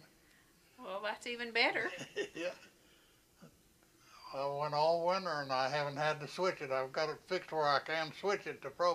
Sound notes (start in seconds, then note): 1.8 laughs